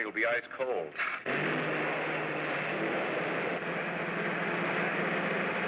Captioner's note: engine roaring